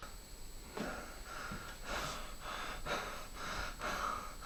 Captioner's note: heavy breathing